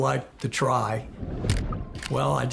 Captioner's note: camera clicking